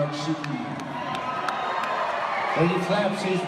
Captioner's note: regular audience noises